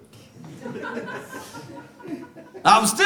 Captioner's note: audience laughs